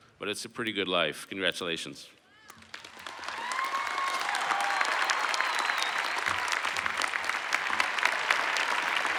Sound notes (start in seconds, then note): 2.7 cheers